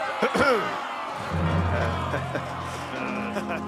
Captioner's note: clears throat